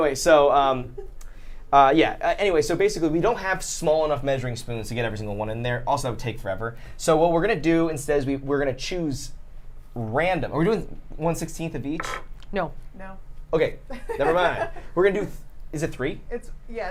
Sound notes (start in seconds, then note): 13.9 laughs